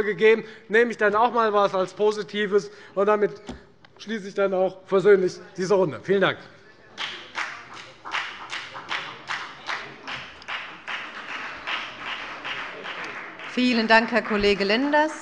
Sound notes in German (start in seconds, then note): 8.5 Beifall bei der FDP